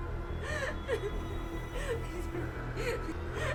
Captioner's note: ominous music; Emma crying